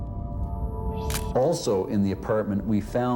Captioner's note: camera shutter click